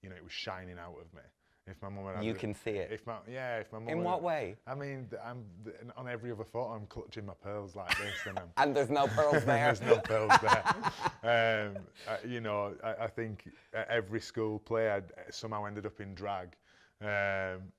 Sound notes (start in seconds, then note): 9.0 laughs